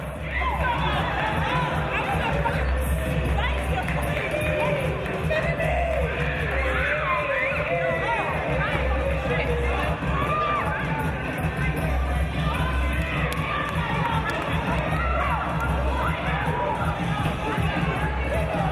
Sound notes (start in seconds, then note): 3.4 dance music on sound system; 3.4 jubilant yelling